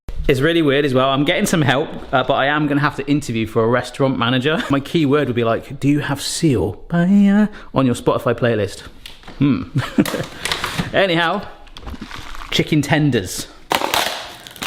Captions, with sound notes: It's really weird as well. I'm getting some help, but I am going to have to interview for a restaurant manager. My key word would be like, "Do you have Seal on your Spotify playlist?" (chuckles) Anyhow, chicken tenders.